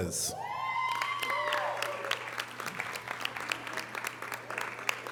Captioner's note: audience cheering and applause